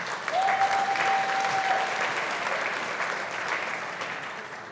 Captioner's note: audience applauding